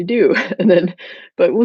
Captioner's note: chuckles